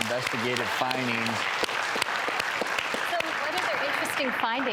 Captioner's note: audience applauds